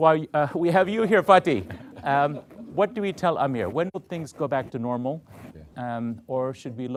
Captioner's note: laughter